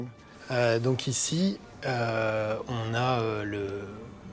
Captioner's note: in french